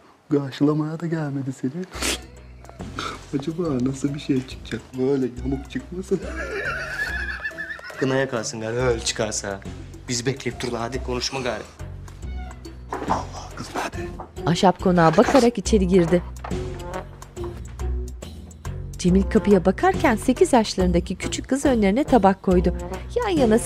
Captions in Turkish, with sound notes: Karşılamaya da gelmedi seni. Acaba nasıl bir şey çıkacak? Böyle yamuk çıkmasın? (Gülme sesi) Kına yakarsın artık öyle çıkarsa. Bizi bekleyip duruyorlar. Hadi konuşma gari. Allah Allah, kız nerede? Nerede kız? (Müzik - Hareketli)